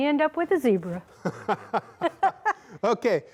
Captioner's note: laughing